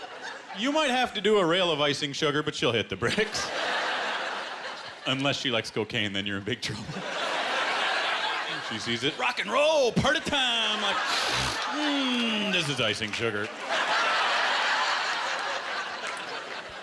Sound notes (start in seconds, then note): 0.0 laughter; 11.1 snorting; 13.4 laughter